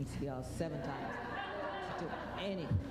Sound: laughter

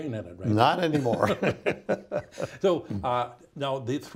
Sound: both laughing

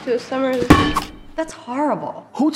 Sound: ball doinging

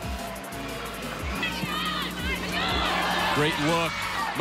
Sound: players shouting

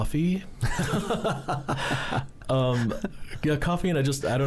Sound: both laughing

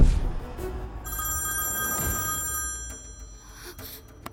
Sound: phone rings

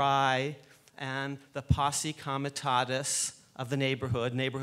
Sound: speaks foreign language

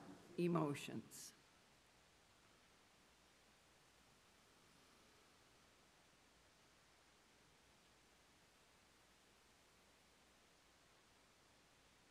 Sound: Silence as we pause and confess our personal sin in silence to God

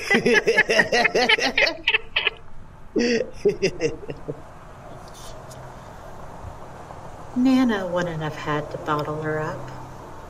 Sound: laughing and making spooky ghost noises

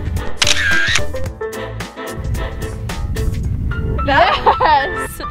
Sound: camera shutter click; laughs

